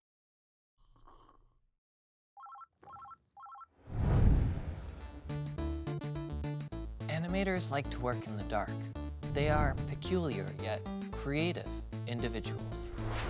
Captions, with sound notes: (telephone ringing) (electronic music) Animators like to work in the dark. They are peculiar, yet creative individuals.